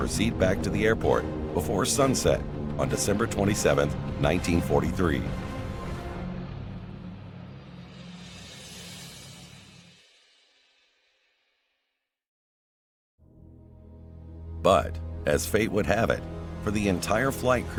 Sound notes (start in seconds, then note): 5.6 airplane engine roaring